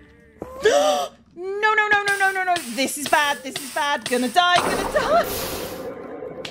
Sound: gasps

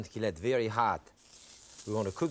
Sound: tuna sizzling

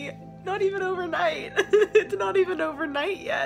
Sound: laughs

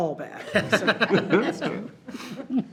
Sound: board laughs

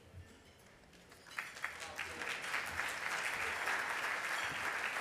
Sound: audience applauding

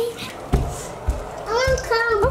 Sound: footsteps thudding

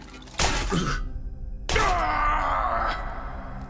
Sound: groaning

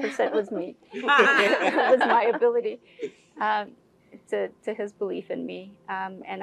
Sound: laugh

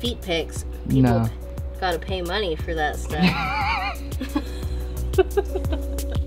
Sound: laughs

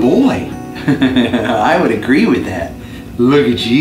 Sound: laughs

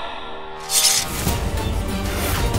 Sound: swords swooshing

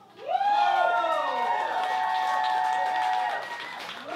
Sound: cheering and clapping

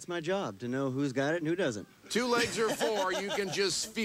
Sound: laughs

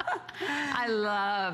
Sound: laughter

